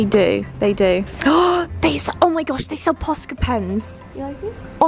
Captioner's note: gasps